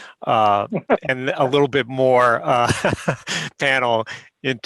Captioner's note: laughing; laughter